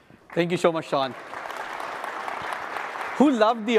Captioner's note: applause